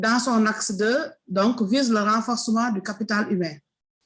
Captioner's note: speaking in foreign language